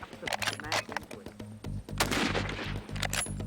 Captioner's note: gunshot